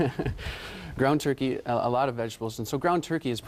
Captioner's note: chuckles